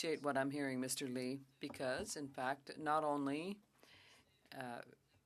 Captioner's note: speaking French